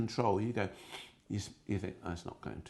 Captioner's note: sniffing